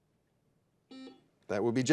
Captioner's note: buzzer dings